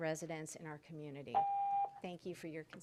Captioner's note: tone